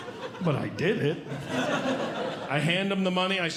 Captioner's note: audience Laughing